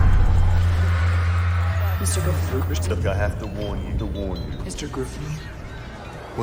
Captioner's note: echoing